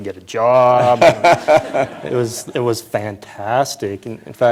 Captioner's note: laughter